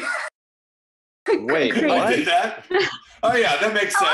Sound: laughs; laughs

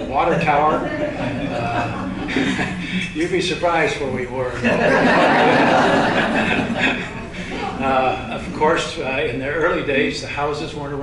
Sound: laughter

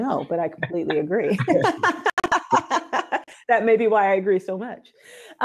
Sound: laughs

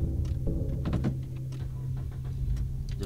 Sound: car starts

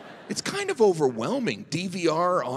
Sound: audience laughing

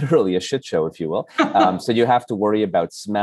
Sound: laughs

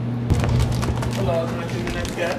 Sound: paper crinkling

